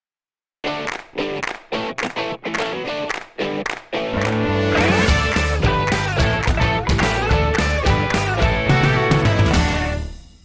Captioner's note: claps